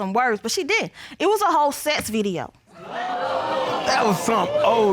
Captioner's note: audience gasps